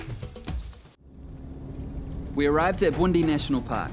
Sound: vehicle engine rumbles

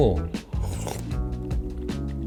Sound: gulp 22

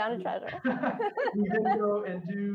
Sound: chuckles

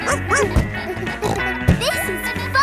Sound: barks; snorts

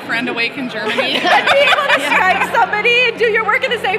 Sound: laughing

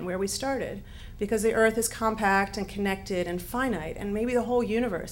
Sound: none

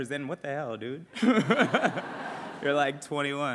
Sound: laughs

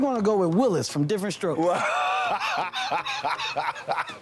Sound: Dwayne Laughs

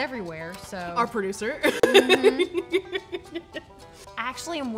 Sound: laughing

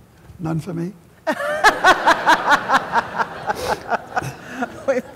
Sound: laughter

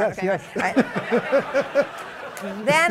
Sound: laughter

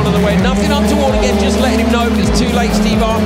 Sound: engines roaring drowns out commentary

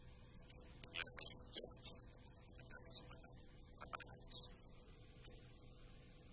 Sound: television continue to play at the background

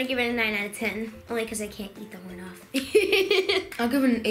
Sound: laughs

